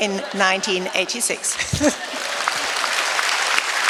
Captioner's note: laughter, applause